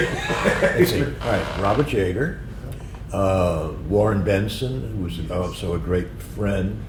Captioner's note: laughter